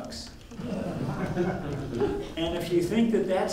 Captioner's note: audience laughing